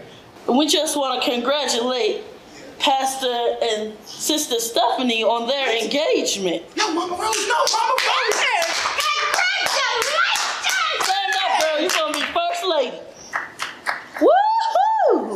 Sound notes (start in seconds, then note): 7.2 crowd claps